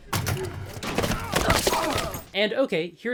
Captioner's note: grunts